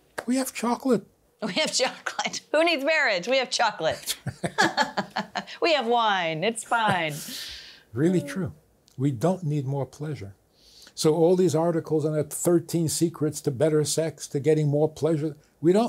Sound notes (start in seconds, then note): 4.0 both laughing